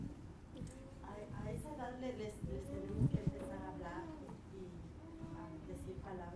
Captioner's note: speaking in foreign language